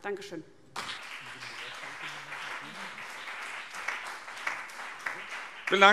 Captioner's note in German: Beifall CDU und BÜNDNIS 90/DIE GRÜNEN